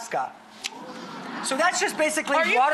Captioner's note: audience gasps